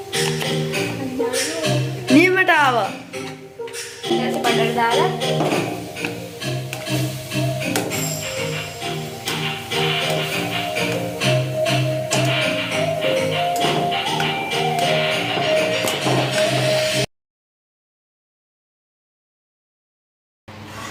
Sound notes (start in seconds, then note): 5.9 stirring